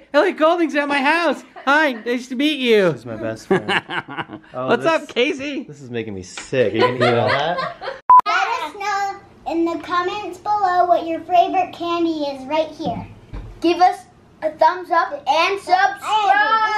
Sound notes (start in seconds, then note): 0.8 laughs; 6.8 laughs; 8.0 beep